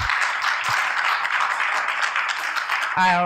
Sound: applause

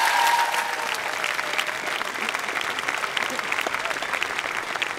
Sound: applause

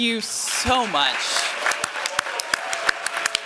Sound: applause

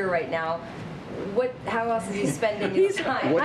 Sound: laughter

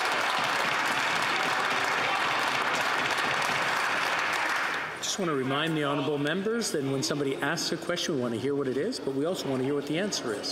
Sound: some Applause

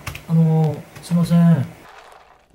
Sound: Japanese speaking

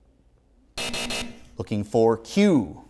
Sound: buzzing

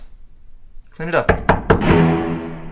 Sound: door knocks

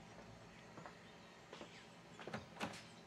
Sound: steps approaching

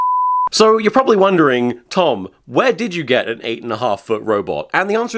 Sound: standby beep

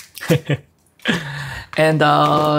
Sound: chuckles

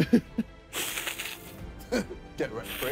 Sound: hissing

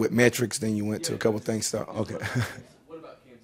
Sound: chuckles

